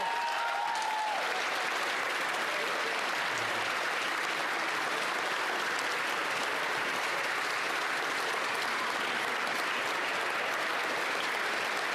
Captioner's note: cheering and applause